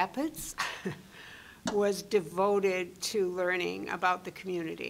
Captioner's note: chuckling